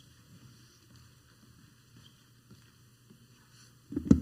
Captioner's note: foot steps